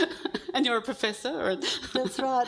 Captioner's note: laughs